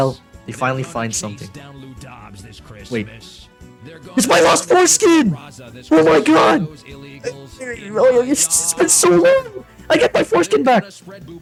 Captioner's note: sighs